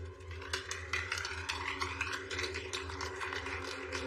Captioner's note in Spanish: Aplausos